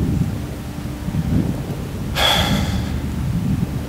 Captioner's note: loud exhale